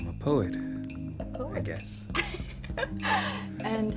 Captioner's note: laughs